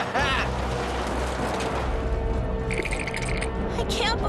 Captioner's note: laughing